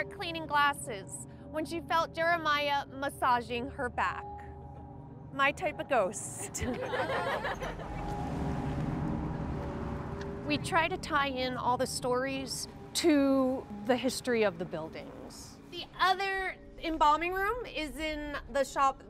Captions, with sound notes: cleaning glasses when she felt Jeremiah massaging her back. My type of ghost. (crowd laughs) (eerie music) We try to tie in all the stories to the history of the buildings. The other embalming room is in the shop